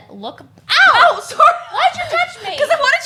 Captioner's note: exclaims